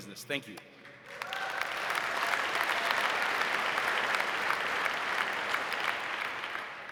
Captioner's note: audience applauding; audience cheering